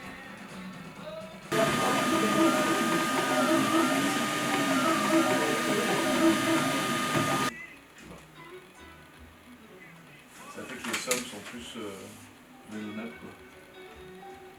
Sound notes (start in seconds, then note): 1.5 machinery whirring; 10.6 speaking in foreign language